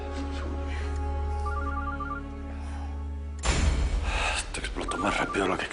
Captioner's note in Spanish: Suena el celular